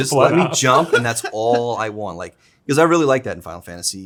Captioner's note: Zack laughs